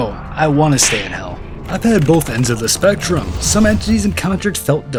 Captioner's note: slaps